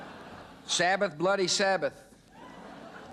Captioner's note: audience laughing